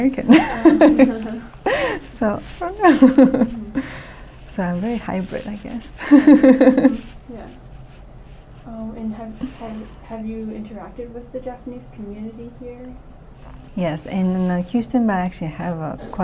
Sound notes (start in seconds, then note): 0.3 laughs; 6.0 laughs